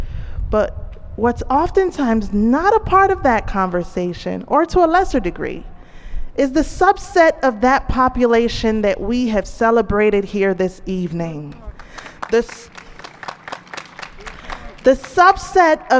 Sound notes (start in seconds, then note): 11.4 applause